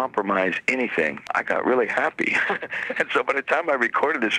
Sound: chuckles

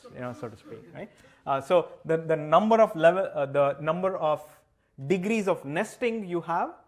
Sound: laughter

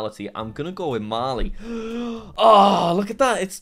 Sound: gasps

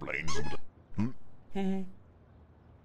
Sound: squeak sound; hums questioningly; awkward chuckle

